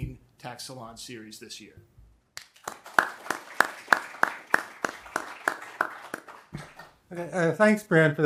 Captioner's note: applause